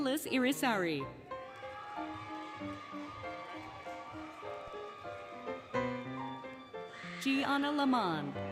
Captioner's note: applause, Cheering, Music